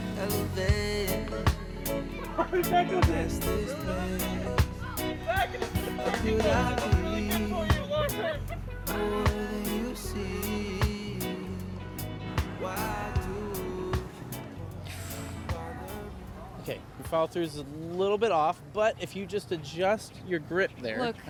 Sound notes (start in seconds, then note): 1.6 laughs